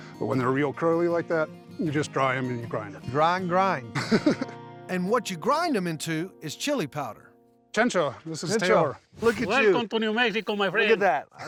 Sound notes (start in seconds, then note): 4.0 laughs